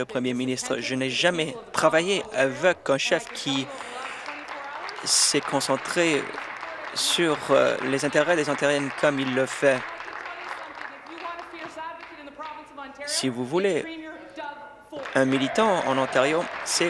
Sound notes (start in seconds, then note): 9.1 applause